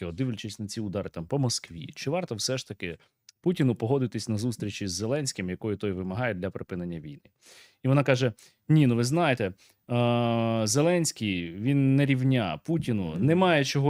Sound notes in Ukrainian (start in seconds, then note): 7.4 сопіння